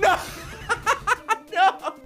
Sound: laughs

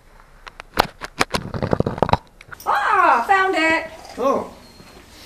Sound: dragging rock

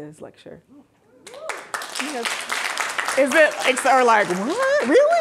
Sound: audience applauding

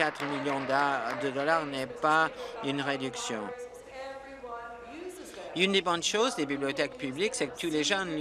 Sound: applause

